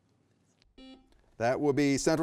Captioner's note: buzzer buzzing